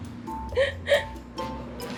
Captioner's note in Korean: 웃음